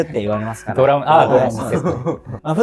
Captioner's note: laughing